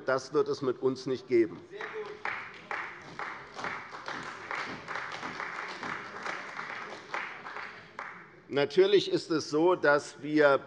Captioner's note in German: Beifall bei der :Sehr gut!So ist es!